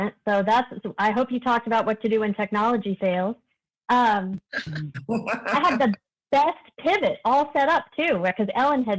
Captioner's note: laughter